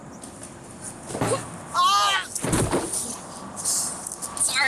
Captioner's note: man yelling; body thudding